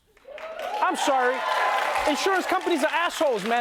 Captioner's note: cheering and applause